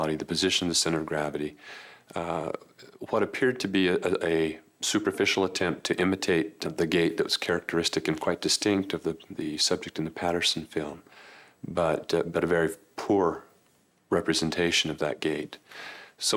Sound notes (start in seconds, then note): none